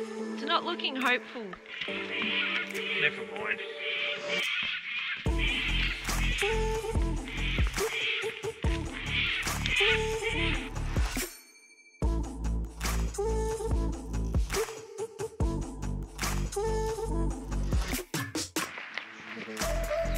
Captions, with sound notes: its not looking hopeful never mind (cockatoo's squawking)